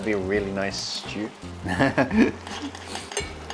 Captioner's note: chuckles